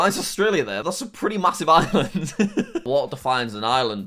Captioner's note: laughs